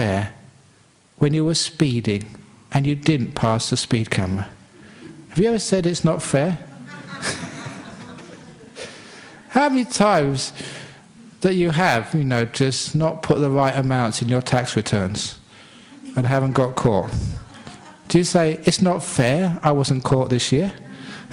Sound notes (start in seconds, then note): 6.6 laughter